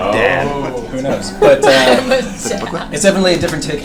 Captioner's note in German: lacht